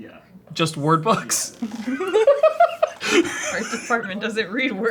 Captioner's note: both laughing